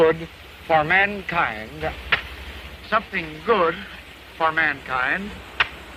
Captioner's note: slap!